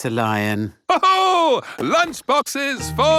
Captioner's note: laughs